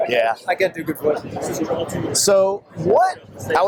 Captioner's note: laughs